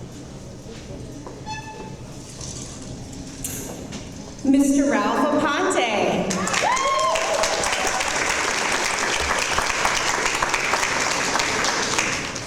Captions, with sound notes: Mr Ralph Oponte. (audience applause)